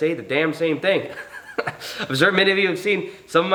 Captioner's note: chuckles